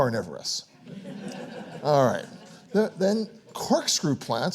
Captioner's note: audience applauds